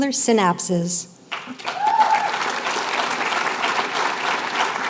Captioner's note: applause